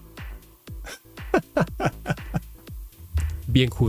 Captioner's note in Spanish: risas